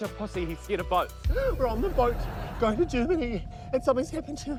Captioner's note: gasps